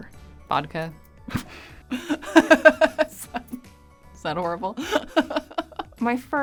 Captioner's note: laughs